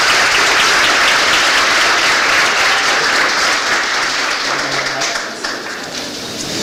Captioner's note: applause